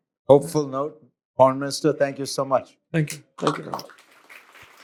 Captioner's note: applause